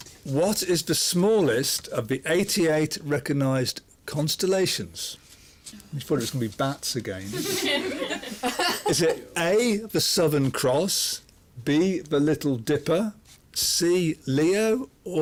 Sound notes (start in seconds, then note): 7.3 laughter